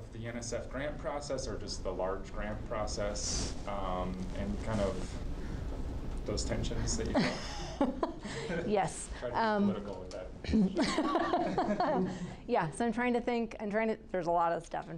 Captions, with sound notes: the NSF grant process or just the large grant process. And kind of those tensions that you talked -- (laughing) - Yes, - Tried to be political with that. (group laughing) - Yes, I'm trying to think, there's a lot of stuff.